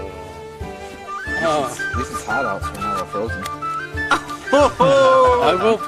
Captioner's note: indistinct chatter